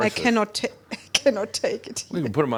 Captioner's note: she chuckles